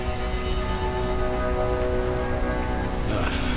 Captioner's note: siren wailing